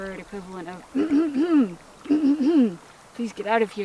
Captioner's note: small laugh; throat clearing noises